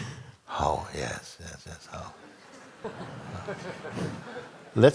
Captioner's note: laughter